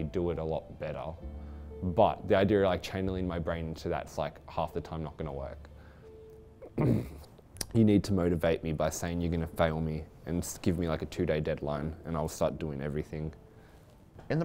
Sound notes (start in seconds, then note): 6.6 clears throat